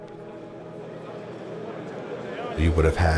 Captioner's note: people talking